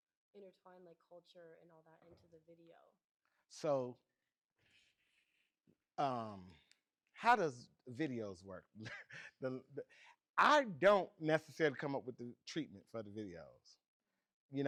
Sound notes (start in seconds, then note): 5.3 chuckles; 13.0 laughs